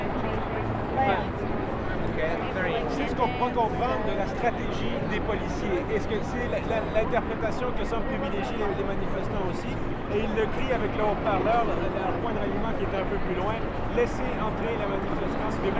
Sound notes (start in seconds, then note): 1.4 crowd chatters; 4.1 speaks in a foreign language